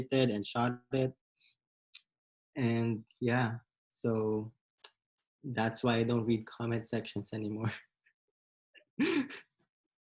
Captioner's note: laughs